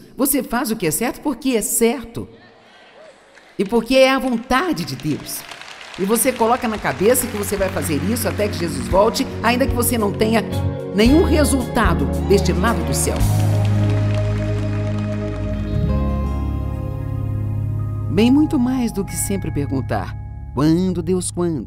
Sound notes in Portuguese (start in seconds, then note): 15.3 audiência aplaude